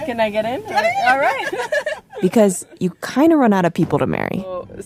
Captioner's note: laughs